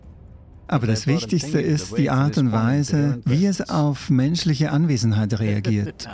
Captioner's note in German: lacht